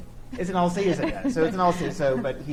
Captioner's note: chuckles